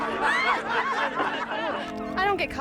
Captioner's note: laughter